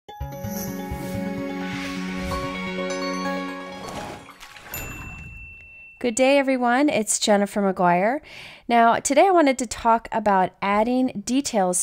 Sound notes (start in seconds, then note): 0.2 light ethereal music; 4.8 bell rings